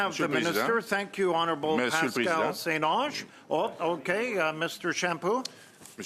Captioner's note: speaking French